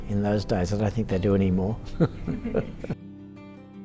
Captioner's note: chuckles; gentle music